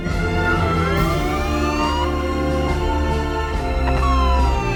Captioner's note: siren Wailing